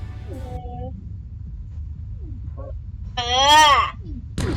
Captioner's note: upset aghh